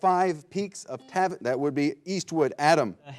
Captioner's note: buzzer blares